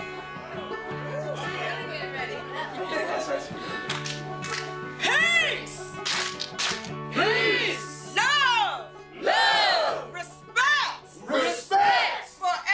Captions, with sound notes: [clap, clap] Peace! [clap, clap] PEACE! Love! LOVE! Respect! RESPECT!